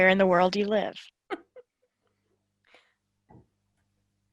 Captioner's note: laughing